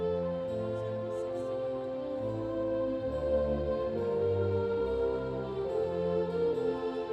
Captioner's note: none